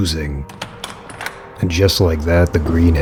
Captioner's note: door opens, closes in distance, footsteps, voices